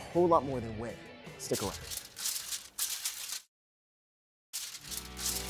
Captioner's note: paper rustles